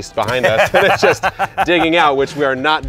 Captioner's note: laughing